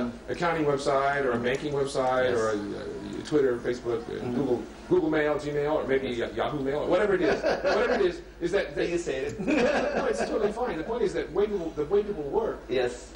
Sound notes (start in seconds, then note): 7.2 laughs; 9.3 laughs